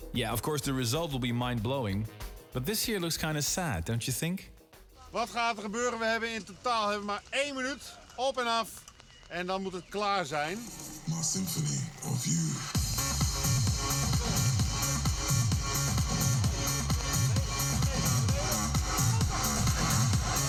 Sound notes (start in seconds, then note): 5.1 speaking in foreign language; 12.7 energetic trance music